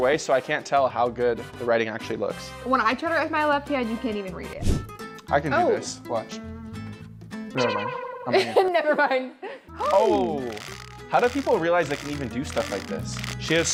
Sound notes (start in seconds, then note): 8.3 laughs